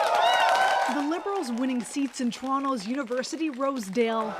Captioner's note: applause